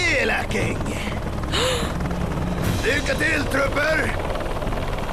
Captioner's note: gasps